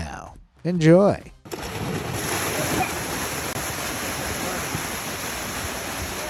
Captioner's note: fisherman laughing; water sloshing